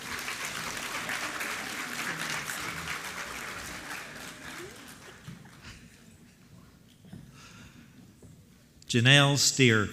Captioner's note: applause